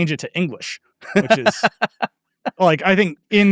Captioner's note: laughing